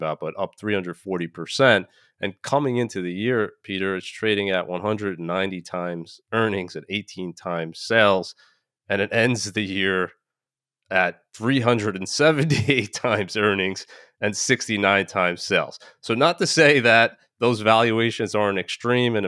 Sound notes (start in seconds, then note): 12.4 laughing